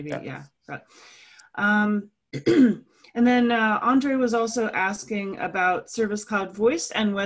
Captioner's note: cough